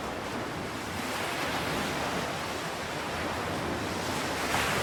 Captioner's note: waves splashing